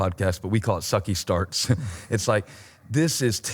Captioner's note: chuckles